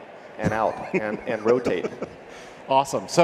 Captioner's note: person laughing